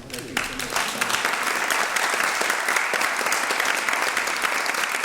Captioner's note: applause